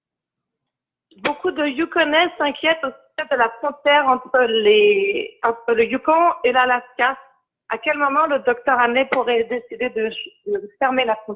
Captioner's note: speaking in French